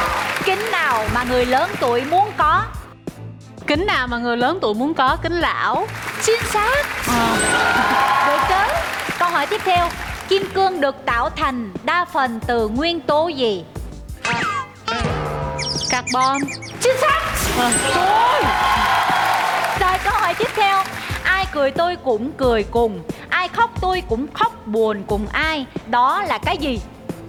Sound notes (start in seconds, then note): 5.8 clapping